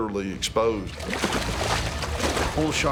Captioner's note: splashing